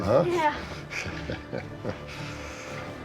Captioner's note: chuckles